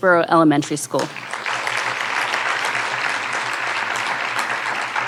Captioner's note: audience applauding